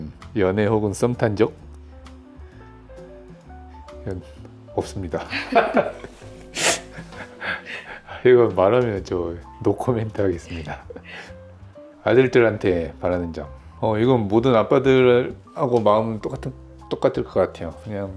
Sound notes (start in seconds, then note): 6.6 laughs